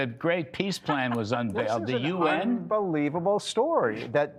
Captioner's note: laughter